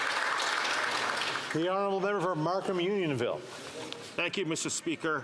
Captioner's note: some Applause